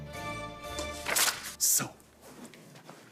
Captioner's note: orchestral music; paper rustles